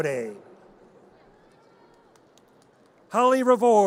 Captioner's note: audience cheers